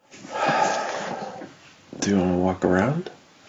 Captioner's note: sighs